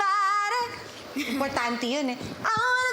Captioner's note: sings chorus; giggles